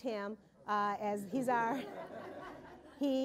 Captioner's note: laughter